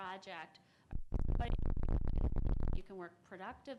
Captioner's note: audio muffles sound